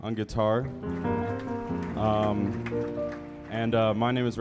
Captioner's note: audience applauding